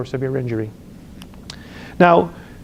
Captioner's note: lip smacks